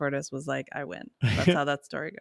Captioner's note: chuckles